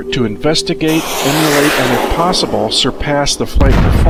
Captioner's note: rocket fires